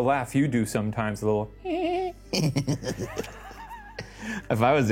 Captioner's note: sniggers; titters